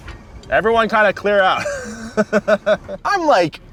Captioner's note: laughs